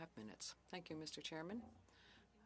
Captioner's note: speaking French